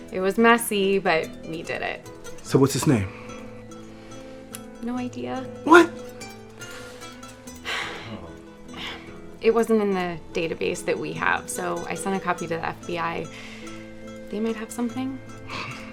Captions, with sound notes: - It was messy, but we did it. - So what's his name? - No idea. - What? (Bobby sighs) - It wasn't in the database that we have, so I sent a copy to the FBI. They may have something?